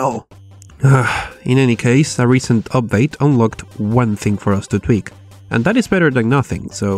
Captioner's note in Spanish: suspiro